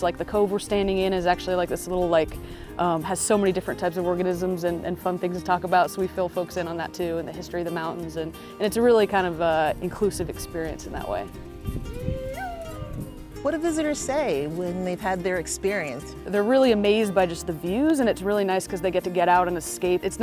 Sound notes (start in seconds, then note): 11.8 howling